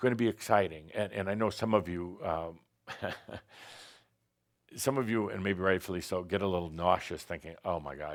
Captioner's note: Adamus chuckles